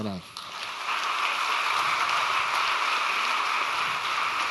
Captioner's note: audience applauds